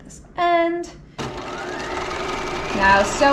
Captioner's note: sewing machine whirling